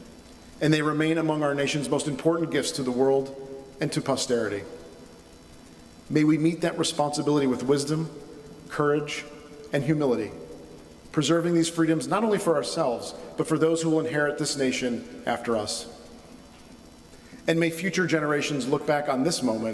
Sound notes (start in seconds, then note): none